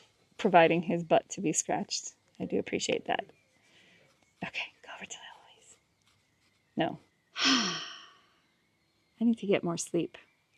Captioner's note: sigh